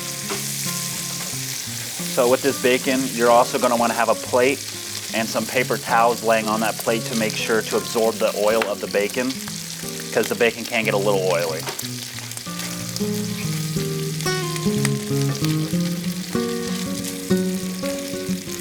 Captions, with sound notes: So with this bacon, you're also gonna want to have a plate and some paper towels laying on that plate, to make sure to absorb the oil of the bacon, 'cause the bacon can get a little oily. (relaxing music) (bacon continues sizzling)